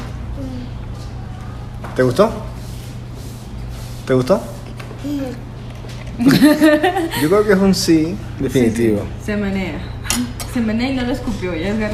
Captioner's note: laughs